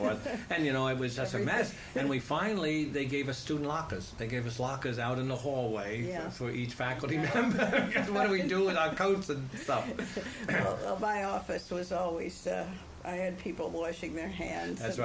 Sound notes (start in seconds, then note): 0.0 laughter; 7.2 laughter; 14.5 laughs